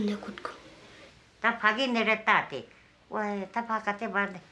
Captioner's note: speaking Bhutanese